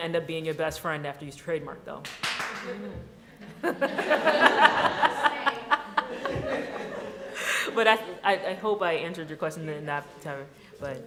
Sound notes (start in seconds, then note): 2.0 clapping; 3.4 laughter